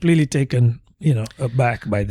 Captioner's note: uh